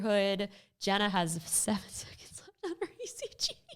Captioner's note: laughs